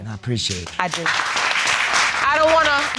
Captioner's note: all applauding